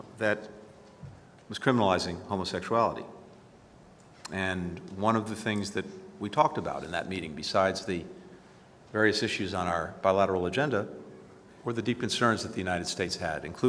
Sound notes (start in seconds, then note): none